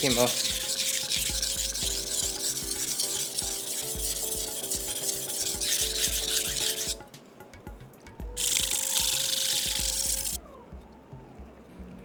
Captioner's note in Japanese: 刃先を研ぐ音